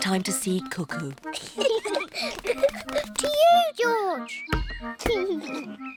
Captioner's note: both laugh